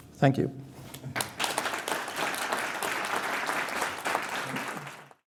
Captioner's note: applause